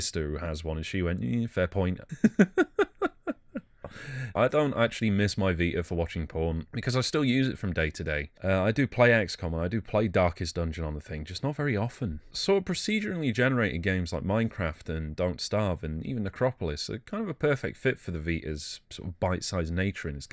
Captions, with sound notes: who has one and she went "hmmm fair point" [LAUGHING] I don't actually miss my Vita for watching porn because i still use it from day to day. I do play XCOM and I do play Darkest dungeon on the thing just not very often. Procedurally-generated games like Minecraft and Don't starve and even Necropolis are kind of a perfect fit for the Vita due to the bite-sized nature of their